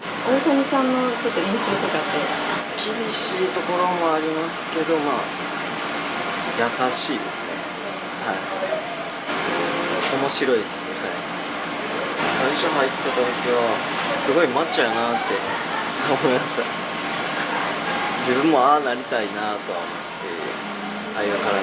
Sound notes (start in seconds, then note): 15.2 laughs